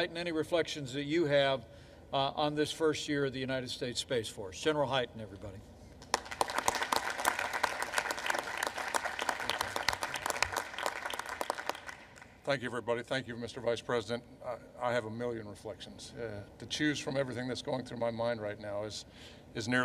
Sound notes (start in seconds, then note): 6.0 applause